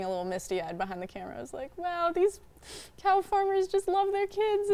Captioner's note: sniffing